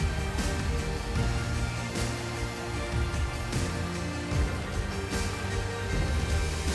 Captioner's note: gentle upbeat music; blower whooshing